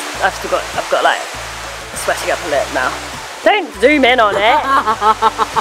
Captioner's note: laughs offscreen